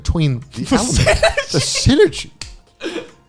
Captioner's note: laughing